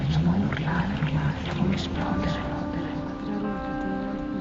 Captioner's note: whispers